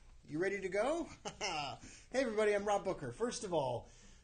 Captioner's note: laughs